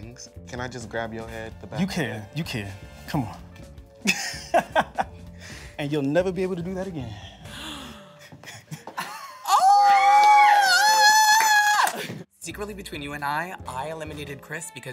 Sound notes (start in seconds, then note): 4.0 laughs; 7.5 squeals